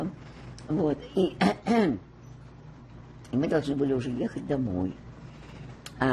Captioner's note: clears throat